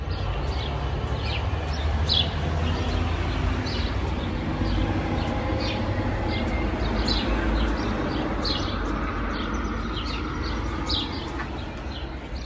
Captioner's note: birds chirping 🦜